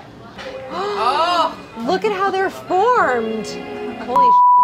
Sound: gasping; beeping

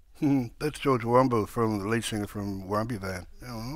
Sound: chuckles

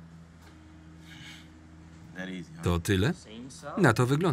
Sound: scoffs

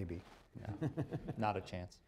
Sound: laughter

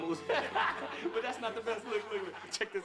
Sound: laughter

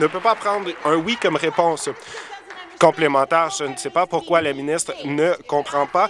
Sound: applause

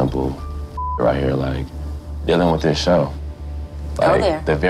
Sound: beep

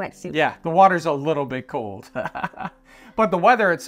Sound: laughs

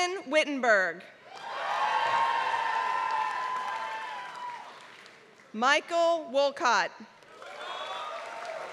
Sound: applause; applause

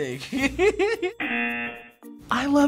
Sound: giggles; buzzer

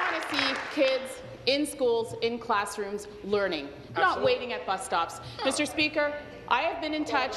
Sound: applause

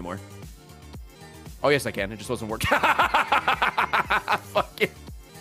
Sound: laughs

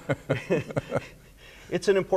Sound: laughing

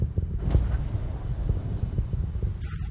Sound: motors fire

